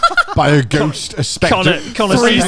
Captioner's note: laughing loudly